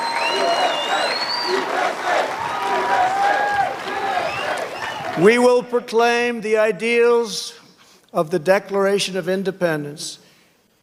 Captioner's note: chanting "u.s.a.!"